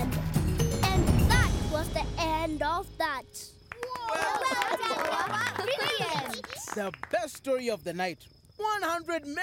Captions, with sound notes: And that was the end of that! (applause) - Well done, Noah! Brilliant! - The best story of the night. 100 merits!